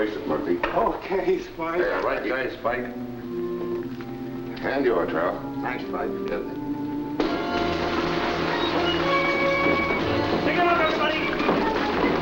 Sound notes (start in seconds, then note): 7.2 gunshots firing; 8.4 dramatic music